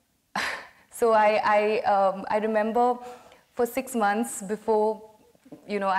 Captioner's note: laughs